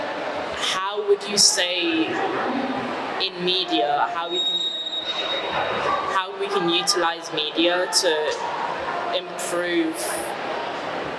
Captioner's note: feedback